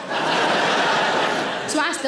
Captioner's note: audience laughs